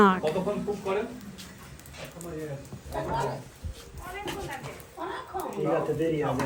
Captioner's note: people chattering in foreign language